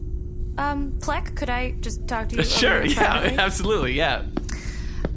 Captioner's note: laughing